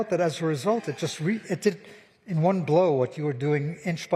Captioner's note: laughter